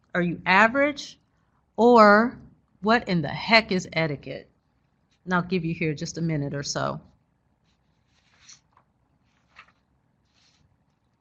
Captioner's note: silence